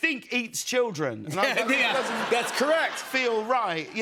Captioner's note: laughter